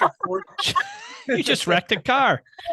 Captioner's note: laughing loudly